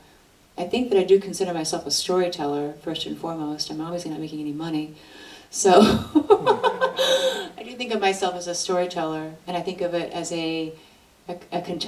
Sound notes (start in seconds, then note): 5.8 laughs